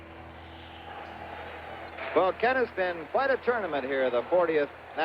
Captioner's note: announcer's voice